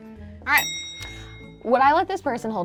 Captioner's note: bell click sound